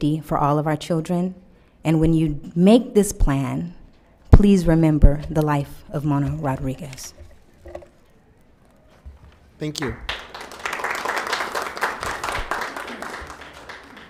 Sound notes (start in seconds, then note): 9.8 applause